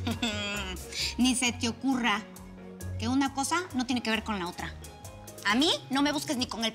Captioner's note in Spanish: risas